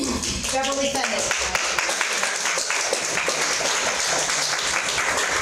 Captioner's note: audience clapping